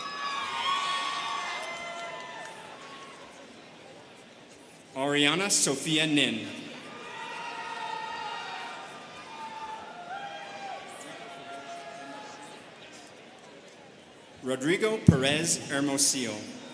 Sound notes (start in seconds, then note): 0.0 students cheering; 6.9 students cheering